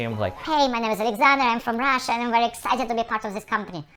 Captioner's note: speaking very-very fast